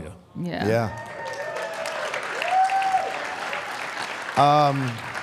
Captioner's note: audience cheers